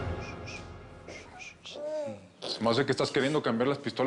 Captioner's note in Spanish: Balbuceos del bebé